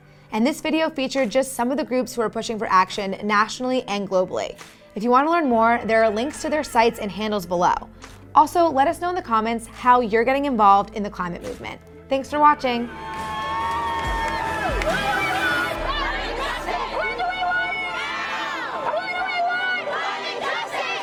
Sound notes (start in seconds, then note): 12.8 crowd cheers; 14.8 crowd yells; 18.9 crowd yells